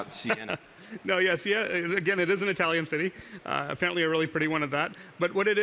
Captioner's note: laughs